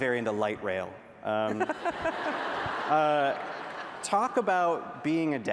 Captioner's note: laughter